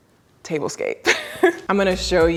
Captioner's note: laughs